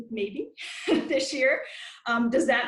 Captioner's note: laughs